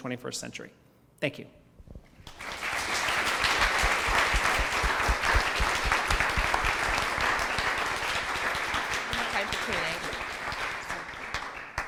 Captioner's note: applause